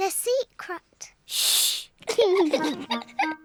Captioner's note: both laugh